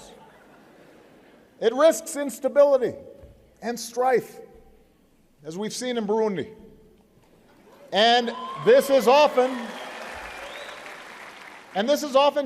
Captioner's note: applause